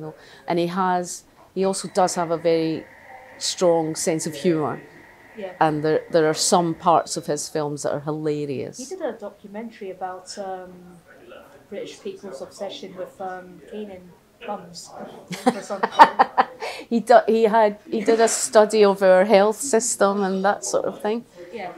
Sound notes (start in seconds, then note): 15.3 laughter